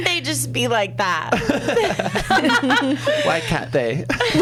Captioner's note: laughs